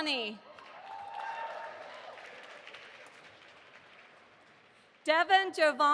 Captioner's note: audience applauding